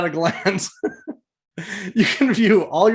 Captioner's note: laughing